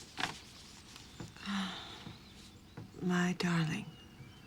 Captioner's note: sighs